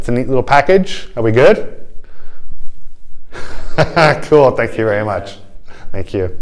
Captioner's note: laughter